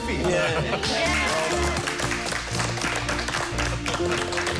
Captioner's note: applause